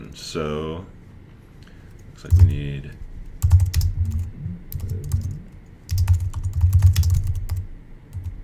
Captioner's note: typing keys